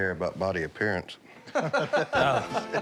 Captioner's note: laughter